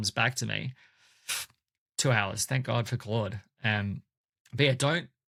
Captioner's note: scoffs